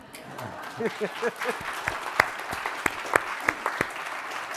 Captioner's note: applause